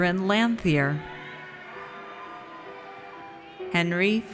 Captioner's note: audience cheers